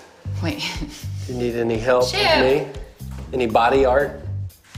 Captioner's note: laughs